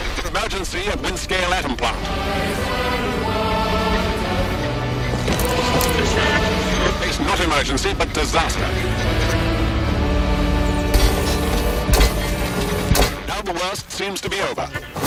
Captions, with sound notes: [radio voice] Emergency at Windscale atom plant! We face not emergency, but disaster! [mechanical clinking] Now the worst seems to be over.